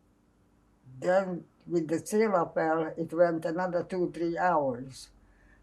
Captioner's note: non-english